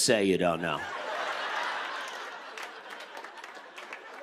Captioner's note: laughter